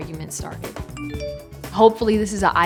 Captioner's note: phone dinging